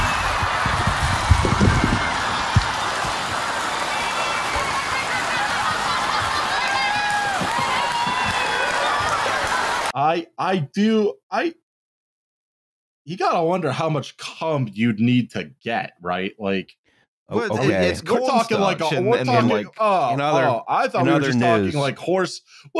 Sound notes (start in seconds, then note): 0.0 audience cheering, louder; 5.5 audience cheering, laughing, clapping